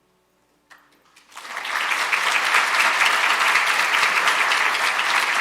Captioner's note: audience applauding